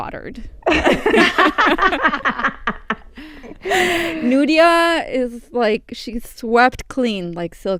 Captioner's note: laughter